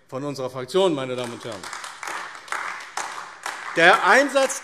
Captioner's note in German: Beifall AfD